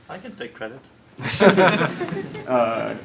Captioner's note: laughter